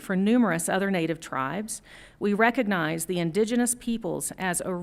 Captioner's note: none